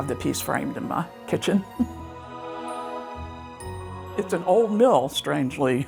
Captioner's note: light music continues; chuckles